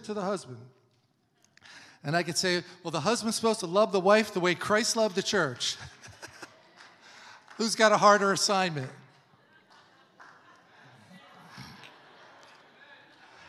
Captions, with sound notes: to the husband." And I can say, "Well, the husband's supposed to love the wife the way Christ loved the church." (laughs) (congregation applauding) Who's got a harder assignment? (congregation laughs)